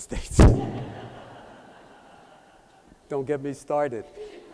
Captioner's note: laughter